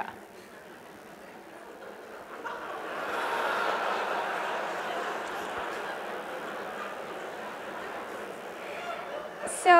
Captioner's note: laugh